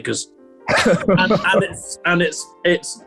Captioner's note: laughter